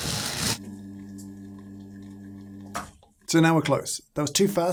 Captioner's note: drill whirring; machine humming